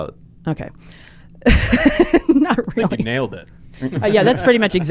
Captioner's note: laughs